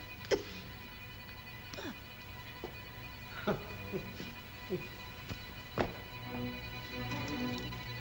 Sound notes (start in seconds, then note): 0.0 gasping sounds; 0.0 soft tense music; 3.4 chuckles condescendingly; 6.5 suspenseful music